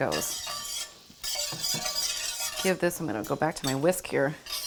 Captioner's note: spatula scrapes pan